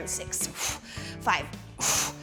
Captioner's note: exhales